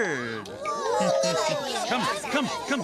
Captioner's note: all exclaiming